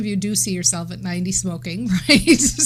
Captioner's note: laughing